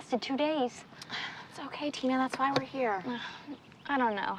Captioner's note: sighs